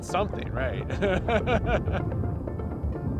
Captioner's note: laughs